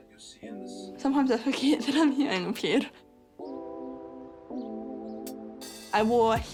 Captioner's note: chuckles